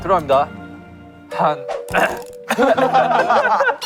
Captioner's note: ahem